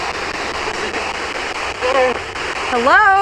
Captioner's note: electronic static hissing